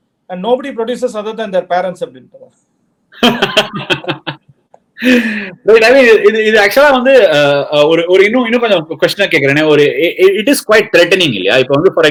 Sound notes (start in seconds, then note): 3.2 laughs